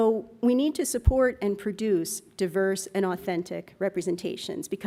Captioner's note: none